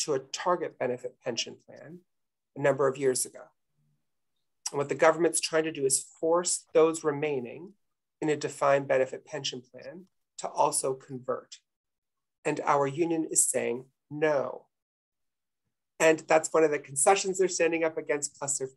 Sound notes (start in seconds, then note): none